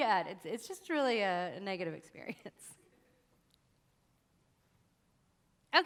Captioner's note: chuckles